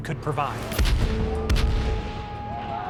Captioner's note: bang